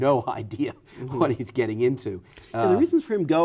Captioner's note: chuckles